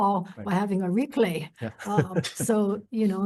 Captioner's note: laughs